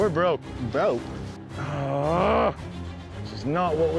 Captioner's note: grunting